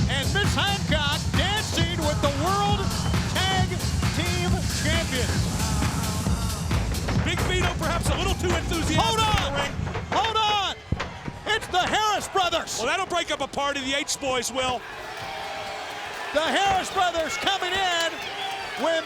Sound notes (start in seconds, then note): 10.5 blows thudding; 14.8 crowd booing